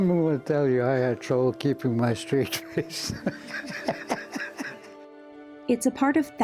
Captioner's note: laughing